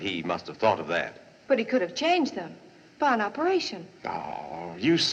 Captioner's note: scoffs